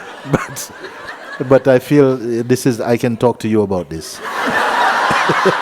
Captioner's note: laughter; laughter